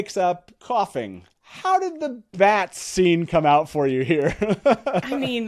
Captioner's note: laughs